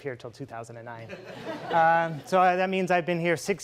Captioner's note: laughing